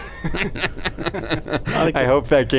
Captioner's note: laughter